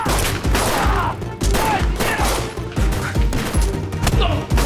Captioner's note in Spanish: Grita